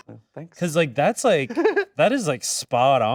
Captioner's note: laughs